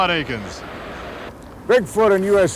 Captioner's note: voiceover